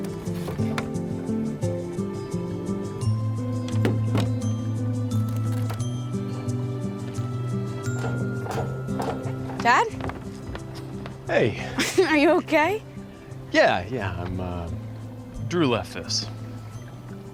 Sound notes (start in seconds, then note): 9.0 footsteps approaching